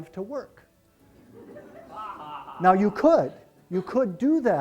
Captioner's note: laughter